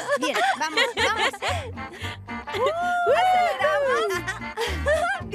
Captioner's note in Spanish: gritos y risas